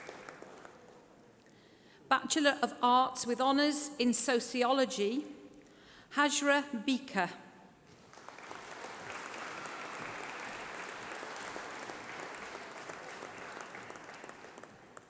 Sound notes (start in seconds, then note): 0.0 applause; 14.8 applause